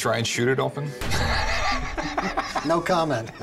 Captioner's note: laugh